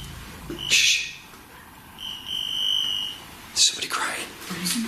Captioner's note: metre beeping